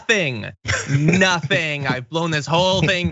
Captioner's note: laugh